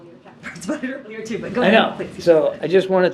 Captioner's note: laughs